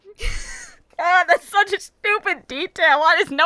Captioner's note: trying not to laugh